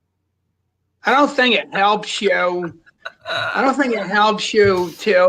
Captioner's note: laughs